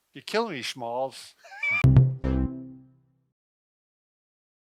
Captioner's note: laughing